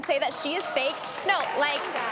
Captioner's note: audience clapping